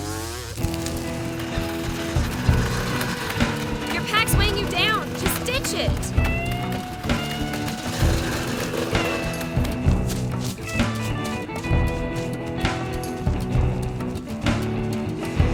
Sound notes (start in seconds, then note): 0.2 bike whirring; 0.2 gentle music; 6.3 bike whirring; 6.3 gentle music